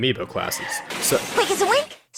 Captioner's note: car crash